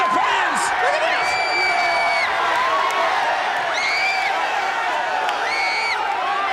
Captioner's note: crowd cheering and screaming